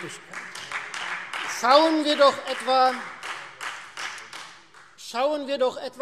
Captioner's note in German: Beifall Freie Demokraten